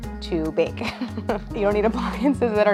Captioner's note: chuckles